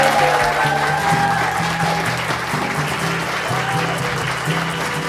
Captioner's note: cheering and applause